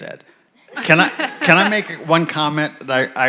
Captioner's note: audience laughs